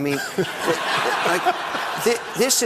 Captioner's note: audience laughing